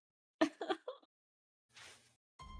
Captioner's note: soft cries